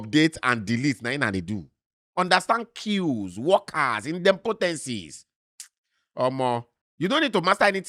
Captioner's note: smacks lips